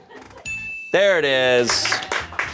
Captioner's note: bell chimes; crew applauds